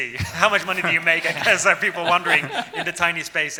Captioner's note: laughing